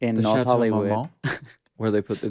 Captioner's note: Courtney laughs